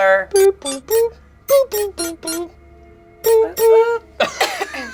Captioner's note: mimics phone dials